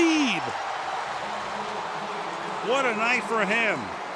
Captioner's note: cheering